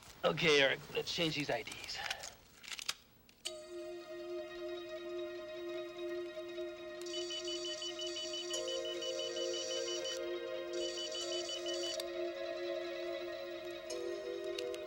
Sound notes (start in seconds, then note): 3.8 dramatic music; 7.4 machine beeping